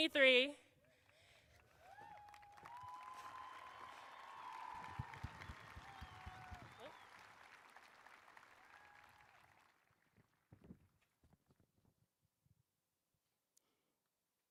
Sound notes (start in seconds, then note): 3.4 applause